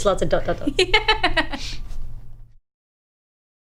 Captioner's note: laughs